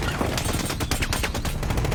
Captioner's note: firing